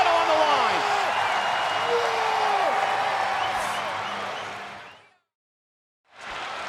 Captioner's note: audience cheering